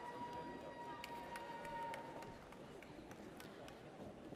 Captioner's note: audience cheers